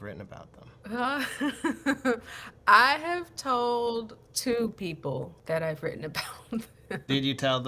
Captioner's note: laughter